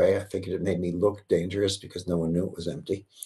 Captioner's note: none